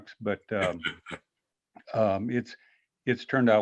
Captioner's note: laughs